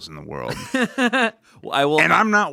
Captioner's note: laughs